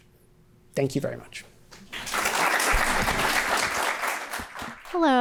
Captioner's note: applause